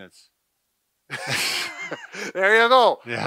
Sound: laughs

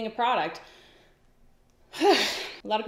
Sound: sighs

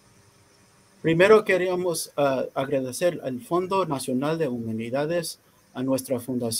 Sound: speaking in foreign language

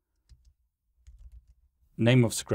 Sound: keyboard clanking

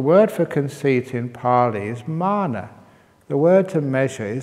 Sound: none

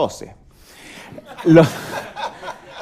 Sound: laughter

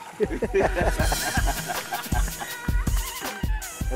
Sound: laughing

